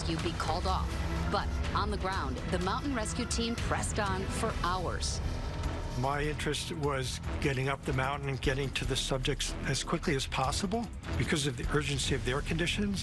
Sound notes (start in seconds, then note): none